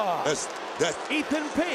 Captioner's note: Booker stammers